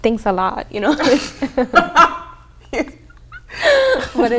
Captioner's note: laughing